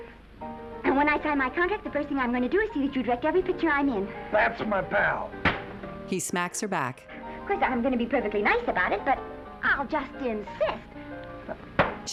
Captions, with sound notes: And when I sign my contract, the first thing I'm going to do is see that you direct every picture I'm in. -That's my pal. -[loud smack] Of course, I'm going to be perfectly nice about it, but I'll just insist. [dull smack]